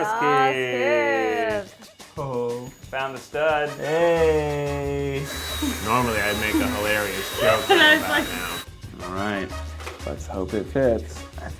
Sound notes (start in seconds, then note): 1.9 playful music; 5.2 vacuum hums; 7.2 laughs